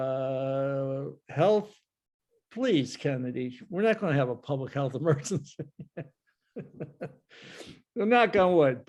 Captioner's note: laughs